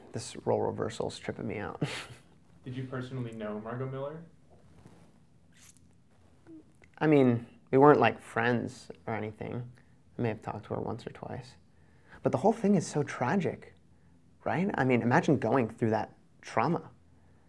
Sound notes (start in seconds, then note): 1.8 laughs